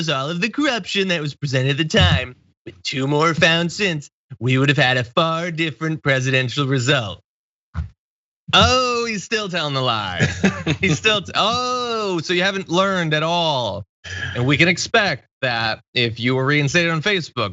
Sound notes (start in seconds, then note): 9.9 laugh